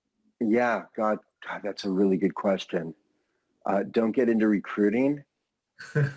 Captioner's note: laughs